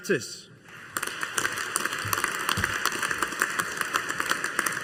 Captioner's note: audience applauding